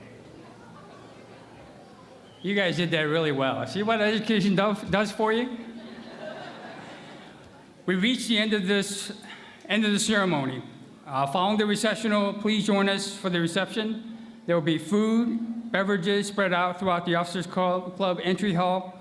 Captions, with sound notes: You guys did that really well. See what education does for you [laughter]. We reached the end of this -- end of the ceremony. Following the recessional, please join us for the reception. There will be food, beverages spread out throughout the officers' club entry hall